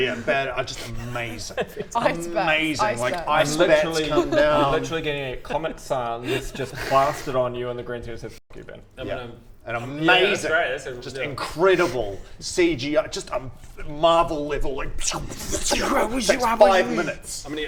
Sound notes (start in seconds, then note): 15.0 czhmfrrshschcxhhh